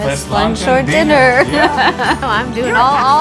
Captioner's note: laughs